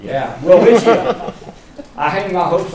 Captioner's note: laughter